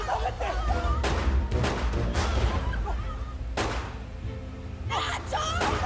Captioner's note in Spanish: Disparos